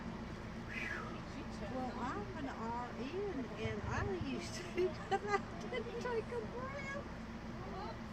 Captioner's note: laughs